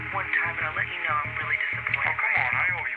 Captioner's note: on phone